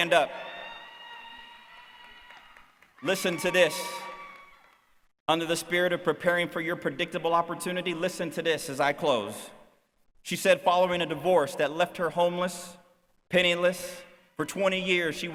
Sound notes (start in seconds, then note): 1.7 cheering